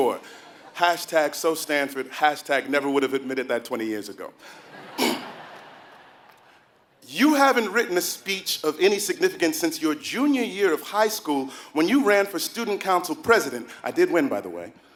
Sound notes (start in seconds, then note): 4.9 cough